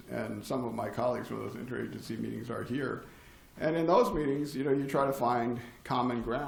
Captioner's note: none